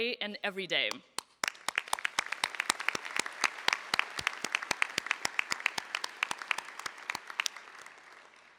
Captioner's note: applause